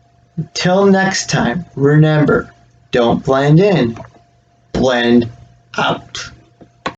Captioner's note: click